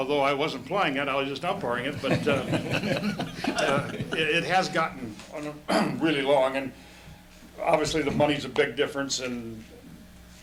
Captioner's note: laughter